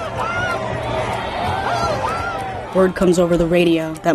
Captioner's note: shouting